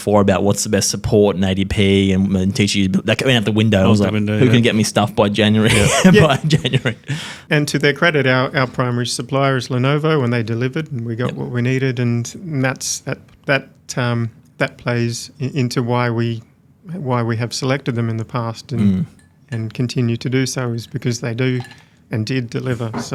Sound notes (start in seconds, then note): 5.6 laughs; 5.6 chuckles